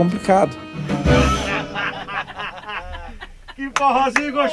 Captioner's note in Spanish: risas